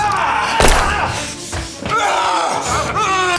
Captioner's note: Brown yelling; gun booming; Koch screaming; Brown yelling; suspenseful music